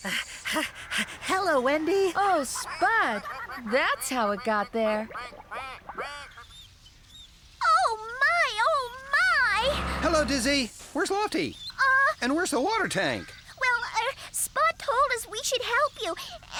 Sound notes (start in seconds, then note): 0.0 panting; 5.1 ducks Quacking